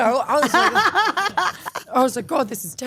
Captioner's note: Stephanie laughing